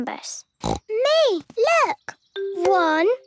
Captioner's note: snorting